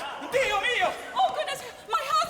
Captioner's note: speaking foreign language